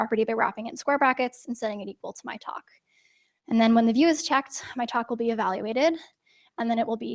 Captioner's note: none